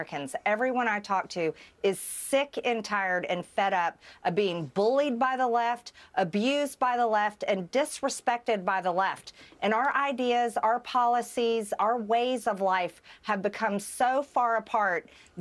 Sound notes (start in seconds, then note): none